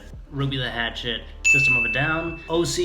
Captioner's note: ding sound effect